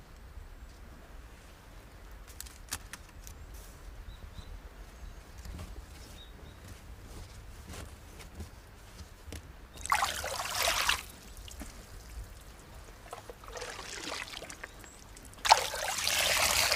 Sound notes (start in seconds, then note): 9.8 water splashing